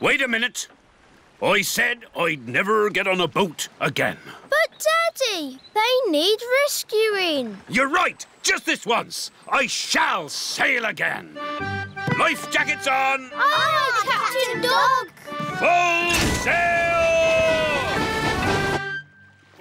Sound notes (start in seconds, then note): none